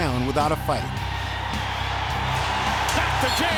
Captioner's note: crowd cheering